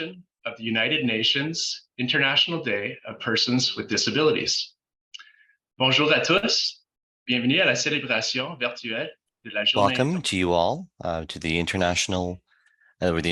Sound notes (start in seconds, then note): 5.8 speaking French